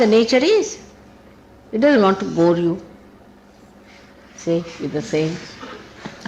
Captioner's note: laughing